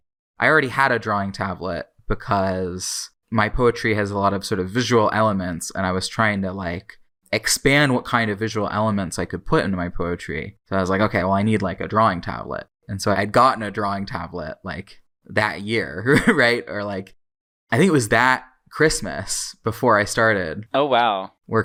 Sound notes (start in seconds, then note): 15.9 laughs